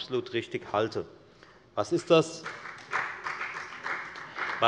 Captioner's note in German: Beifall bei der FDP